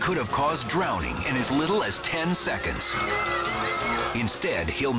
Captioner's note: bystanders clamor